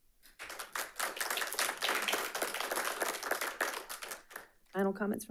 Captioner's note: audience applauding